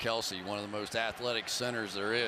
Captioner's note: cheers